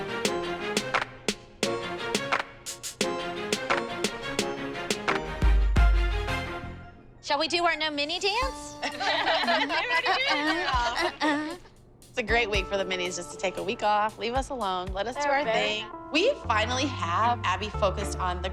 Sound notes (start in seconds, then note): 8.8 humming; 8.8 laughter